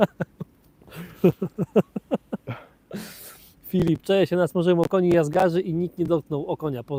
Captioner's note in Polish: śmiech